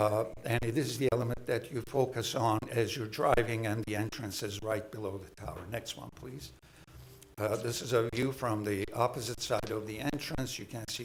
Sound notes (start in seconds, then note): none